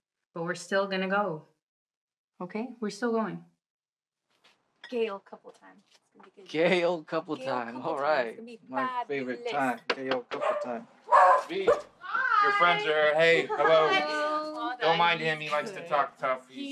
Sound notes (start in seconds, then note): 9.8 knocking; 11.0 a bark; 11.0 dog barking